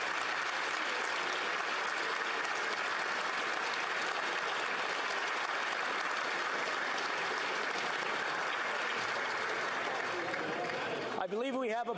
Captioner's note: some Applause